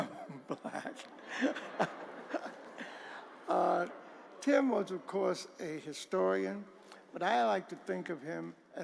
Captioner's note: laughter